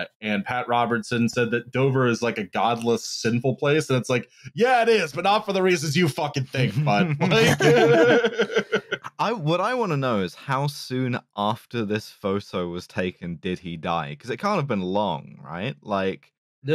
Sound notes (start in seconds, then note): 6.6 laughter